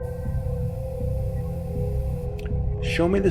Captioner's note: pensive atmospheric music; spaceship whirring